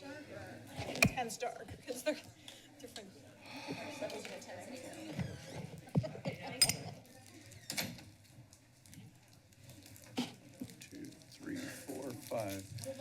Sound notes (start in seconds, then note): 0.0 background conversations